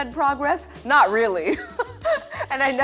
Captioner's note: laughs